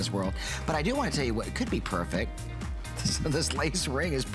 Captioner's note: laughter